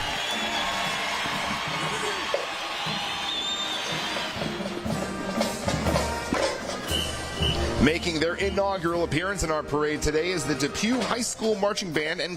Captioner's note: applause